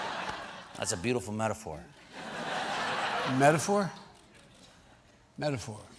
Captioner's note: laughter